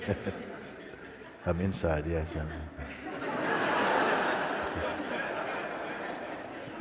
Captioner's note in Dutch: gelach